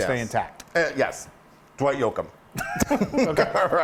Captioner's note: laugh